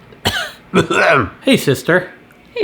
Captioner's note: coughing